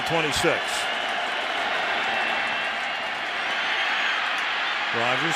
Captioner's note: cheering